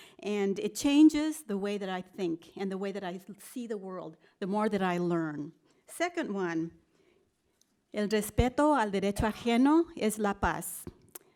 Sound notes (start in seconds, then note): 7.2 spanish speech